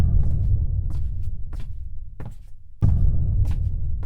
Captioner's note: footsteps